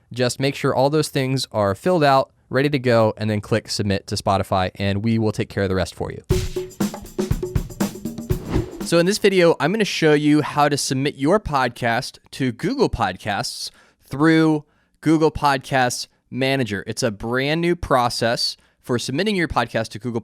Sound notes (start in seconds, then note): 6.3 percussive music; 6.5 screen whooshing